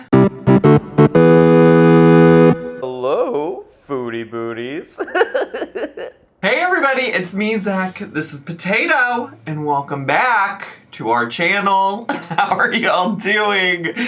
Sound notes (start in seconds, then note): 0.0 bright music; 4.9 giggles